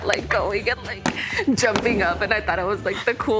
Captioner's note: foot stomps floor